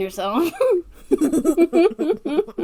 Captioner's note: laughing